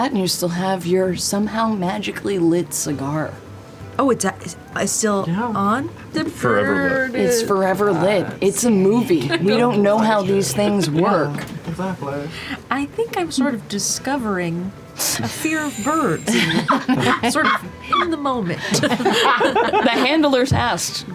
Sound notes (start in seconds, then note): 19.1 laughter